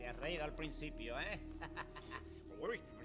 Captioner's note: puppeteer speaking in arabic language